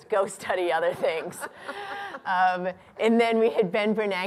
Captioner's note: laughter